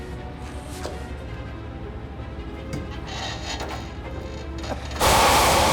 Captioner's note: alarm blaring; steam hiss